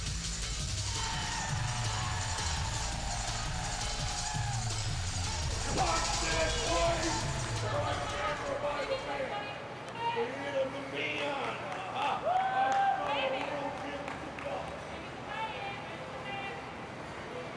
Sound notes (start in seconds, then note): 0.8 audience cheering; 6.0 group chattering